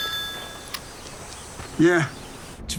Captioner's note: weight clanging; button clicking